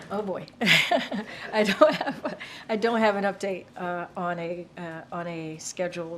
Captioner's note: laughs